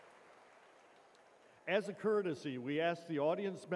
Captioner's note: cheers and applause